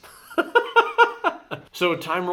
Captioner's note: laughs